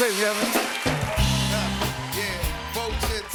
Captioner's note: cheers and applause